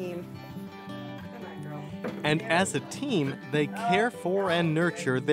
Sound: voiceover

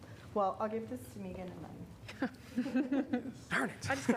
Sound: laughter

